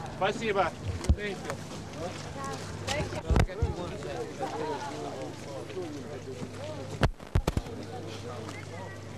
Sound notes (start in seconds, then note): 0.1 non-english; 3.5 chatter